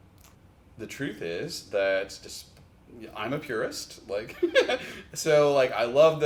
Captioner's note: chuckles